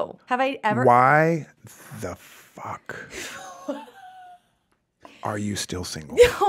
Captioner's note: laughs